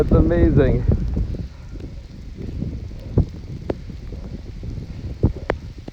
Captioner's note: soft thunder dying out